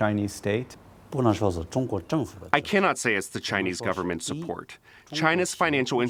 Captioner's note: through translator